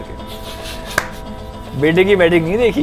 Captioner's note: taali bajakar hanste hue; ताली बजाकर हँसते हुए